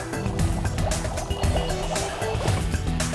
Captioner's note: bubbling